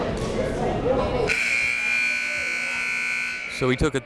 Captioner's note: buzzer blaring